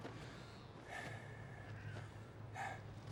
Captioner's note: heavy breathing